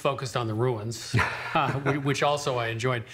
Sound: chuckling

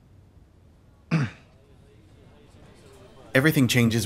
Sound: clears throat

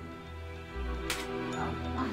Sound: smack

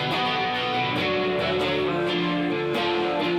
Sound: none

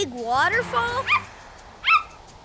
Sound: barking

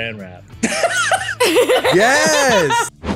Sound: all laugh

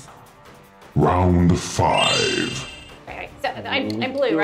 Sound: announcer Voice

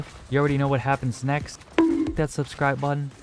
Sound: bonk

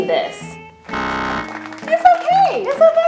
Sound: buzzer

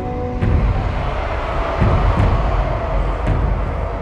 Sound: orcs chanting

